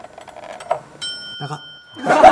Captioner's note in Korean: 수저 소리